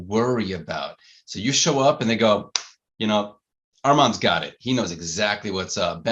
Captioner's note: claps